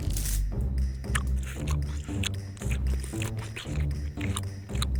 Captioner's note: wet munching for an uncomfortably long time